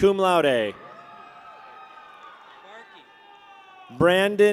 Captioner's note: people cheer